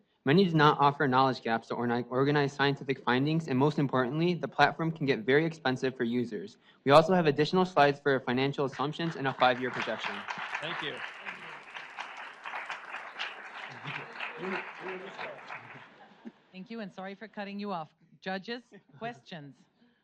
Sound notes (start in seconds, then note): 10.2 audience applauds; 14.7 whispering